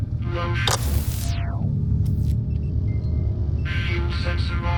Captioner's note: machine fzzt-snap